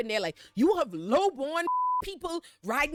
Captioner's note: beep